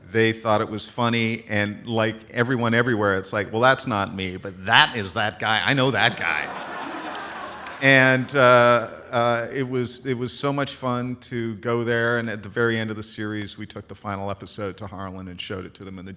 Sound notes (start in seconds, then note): 5.9 audience laughs